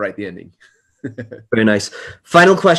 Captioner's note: laughs